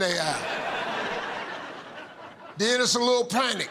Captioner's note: laughter